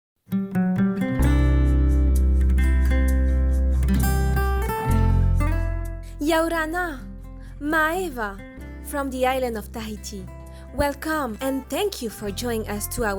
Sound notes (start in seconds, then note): 1.1 bright upbeat music; 7.2 foreign language